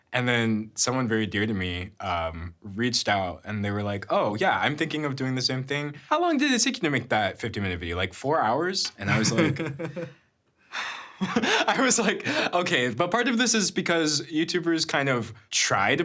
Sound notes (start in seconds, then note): 9.0 laughing; 12.2 sighing